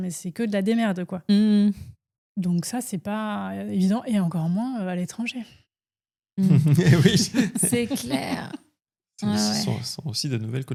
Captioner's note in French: rires